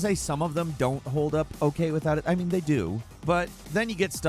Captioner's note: none